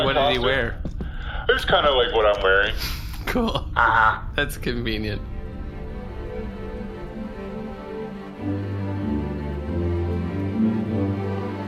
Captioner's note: laughing